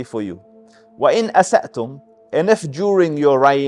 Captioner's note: Arabic